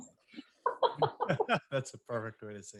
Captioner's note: all laughing